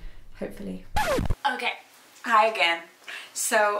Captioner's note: record scratches